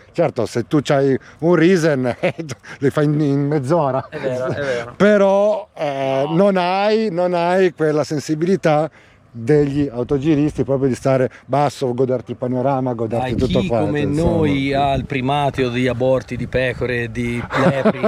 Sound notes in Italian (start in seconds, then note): 2.0 risate; 17.4 risate